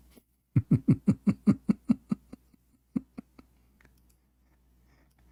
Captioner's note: Ketawa